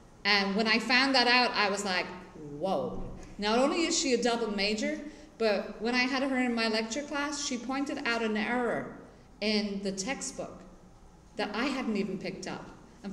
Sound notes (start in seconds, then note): none